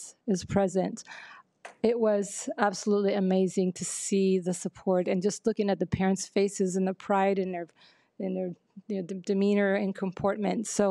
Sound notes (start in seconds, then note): none